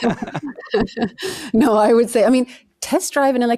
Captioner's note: laughing